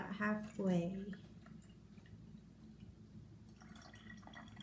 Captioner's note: water pouring